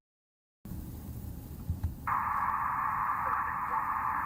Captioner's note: white noise